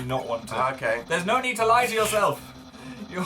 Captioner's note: both snigger